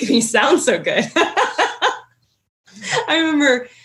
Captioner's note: laughing